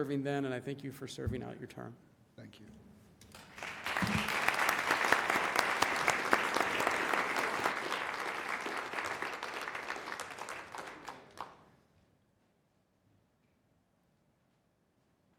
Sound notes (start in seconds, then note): 3.3 applause